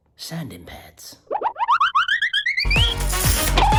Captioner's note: upbeat music; loud scratching